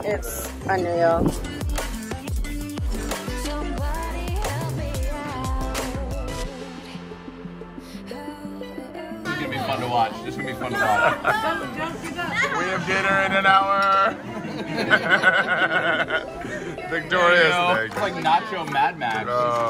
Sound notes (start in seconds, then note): 16.1 laughing hard